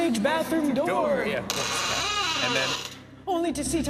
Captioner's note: door creaking